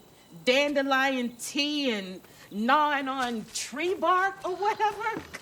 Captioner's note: laughs